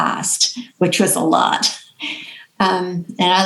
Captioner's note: chuckles